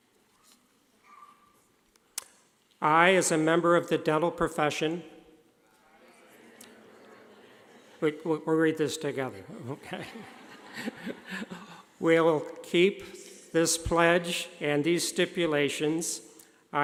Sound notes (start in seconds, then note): 5.8 class mumbling; 9.4 laughing